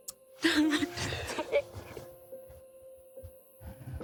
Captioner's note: Molly sobbing